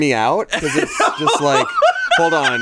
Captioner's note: laughs